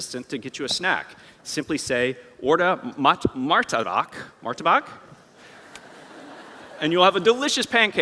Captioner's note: non-english